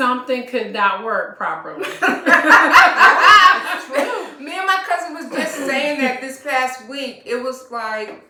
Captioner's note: laughter